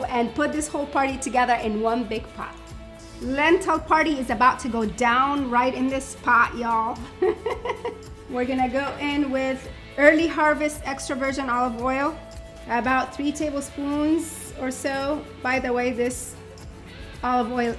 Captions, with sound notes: and put this whole party together in one big pot. Lentil party is about to go down right in this pot, y'all. (laughing) We're gonna go in with early harvest extra virgin olive oil, about three tablespoons or so by the way this olive oil